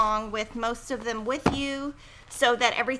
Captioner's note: bangs book on desk